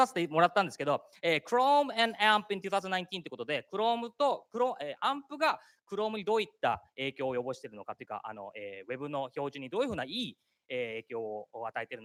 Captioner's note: speaking japanese; speaking japanese